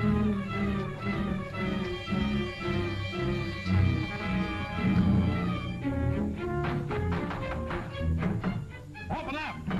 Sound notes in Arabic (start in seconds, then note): 6.5 طرق الباب